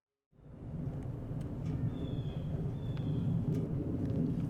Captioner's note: birds chirp